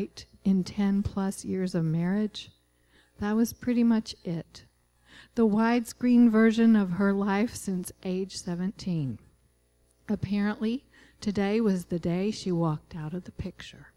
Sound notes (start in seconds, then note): none